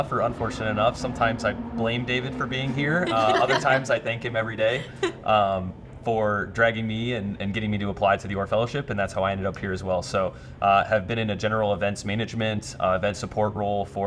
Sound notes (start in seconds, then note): 3.0 laughing